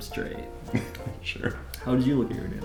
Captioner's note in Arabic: أقصى ضحكات مكتومة